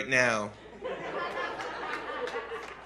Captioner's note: laughter